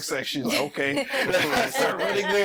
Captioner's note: all laughing